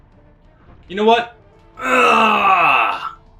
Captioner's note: yells